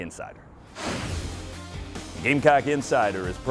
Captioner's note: air rushing